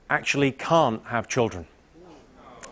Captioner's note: audience aws